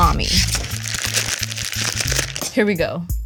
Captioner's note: casing crinkles